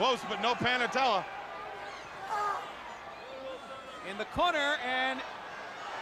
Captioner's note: crowd chatter